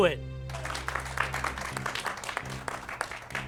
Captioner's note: applauding